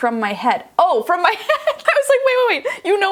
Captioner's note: laughing